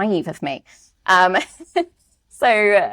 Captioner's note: laughs